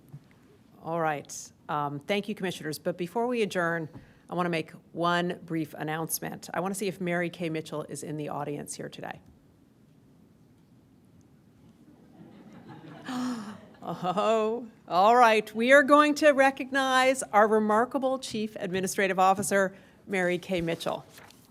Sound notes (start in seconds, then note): 12.0 laughter